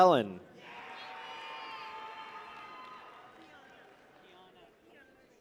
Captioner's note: people cheer